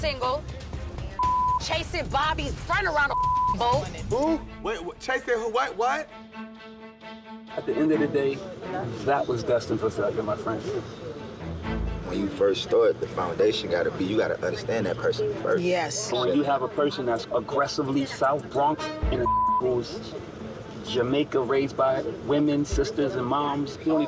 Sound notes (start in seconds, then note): 1.2 beep; 19.1 beep